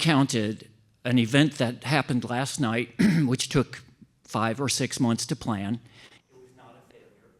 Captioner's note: cough